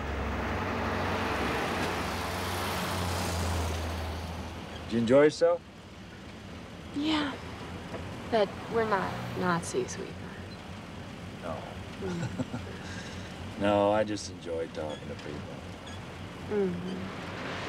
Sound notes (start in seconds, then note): 12.0 chuckling